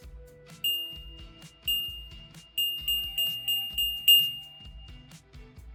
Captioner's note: bells chime